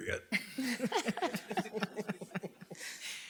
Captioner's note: all laugh